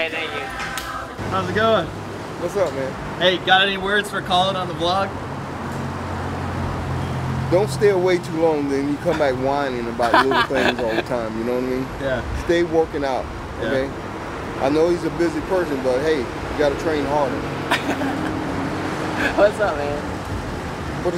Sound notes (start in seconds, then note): 17.6 laughing